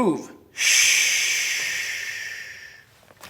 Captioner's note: air hisses